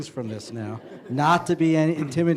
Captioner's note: laughter